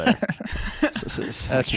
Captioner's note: laughing